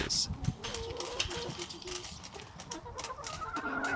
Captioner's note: chicken clucking